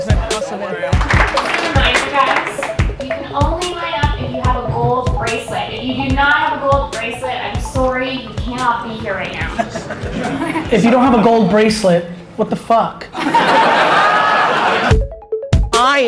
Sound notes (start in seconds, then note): 0.9 applauding; 13.1 audience laughs